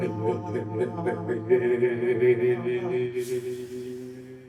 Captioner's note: humming